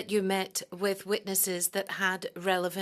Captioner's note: speaking French